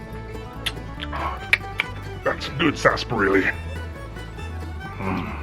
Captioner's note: clicks